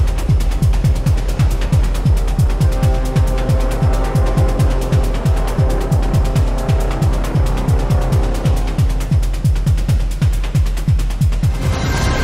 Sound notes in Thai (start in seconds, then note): none